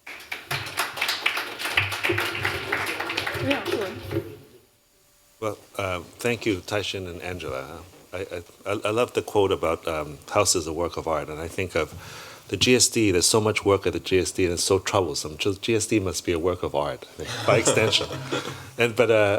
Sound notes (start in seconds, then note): 0.0 applause; 17.2 laughter